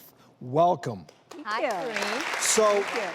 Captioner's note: audience applauds